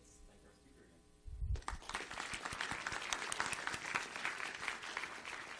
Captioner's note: audience applauds